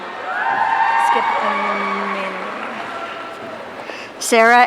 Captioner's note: audience cheering